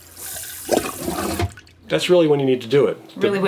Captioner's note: toilet burping